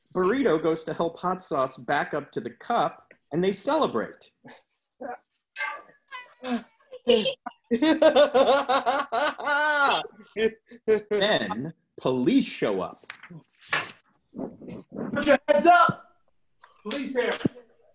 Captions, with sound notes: Burrito goes to help Hot Sauce back up to the cup and they celebrate. [cheering, laughing] Then, police show up. Put your hands up! Police here.